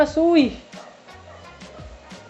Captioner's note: dog